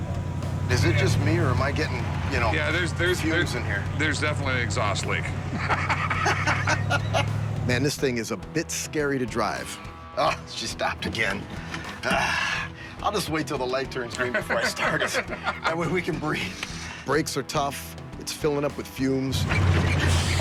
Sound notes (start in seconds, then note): 5.4 laughter; 11.6 sighs